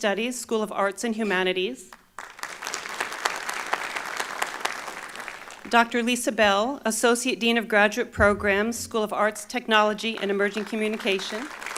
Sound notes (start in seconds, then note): 1.9 applause